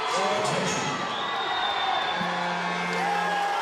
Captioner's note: buzzer blares